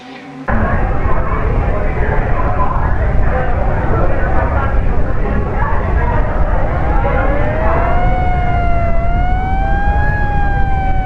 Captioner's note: crowd murmuring and sirens blaring